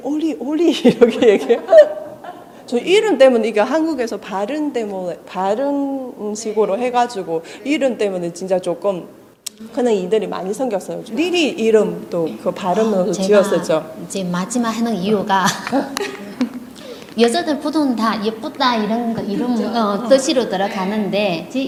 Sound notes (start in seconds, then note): 11.3 Korean